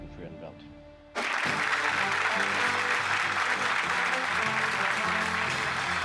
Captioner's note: audience applauding, playing